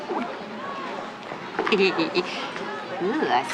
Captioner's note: chuckles